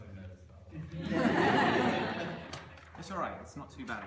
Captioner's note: laughter